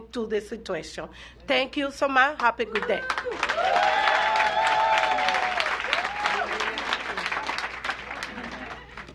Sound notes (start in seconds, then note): 6.8 applause